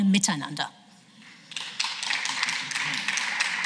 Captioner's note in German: Beifall